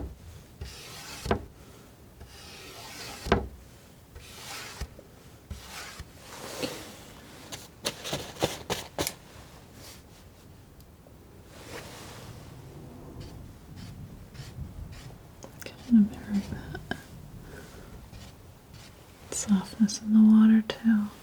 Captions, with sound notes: [tapping] I'm gonna mirror that. softness in the water too.